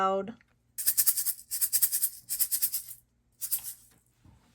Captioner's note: penguin shuffles